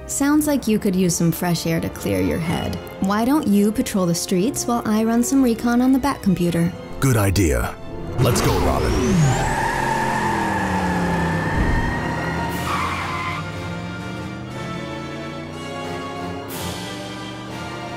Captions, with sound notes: - Sounds like you could use some fresh air to clear your head. Why don't you patrol the streets, while I run some recon on the back computer. - Good idea. Let's go, Robin. (engine revving) (tires squealing) (dramatic music)